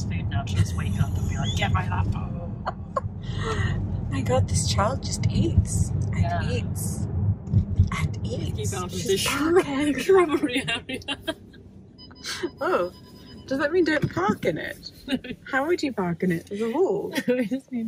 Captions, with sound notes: food now to just wake up and be like, get my hot food. (laughing) - My go this child just eats and eats. And eats. (laughing) Oh, does that mean don't park in it? How would you park in it? It's a wall.